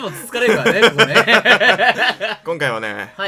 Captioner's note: laugh